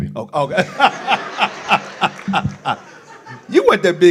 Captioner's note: laughs